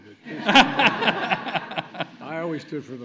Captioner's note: laughter